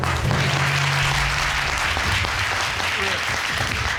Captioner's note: audience applauds